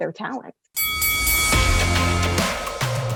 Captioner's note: bell dinging; upbeat music